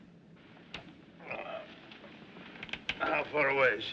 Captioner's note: Gemidos